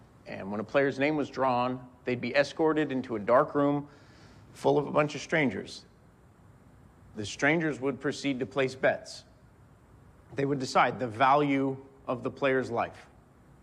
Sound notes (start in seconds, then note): none